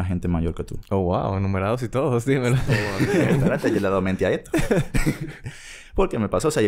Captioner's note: laughs; laughs